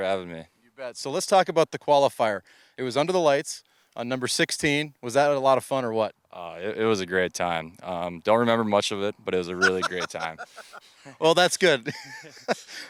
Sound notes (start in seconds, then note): 9.6 laughing; 12.3 laughs